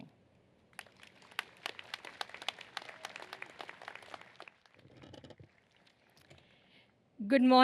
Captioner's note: applause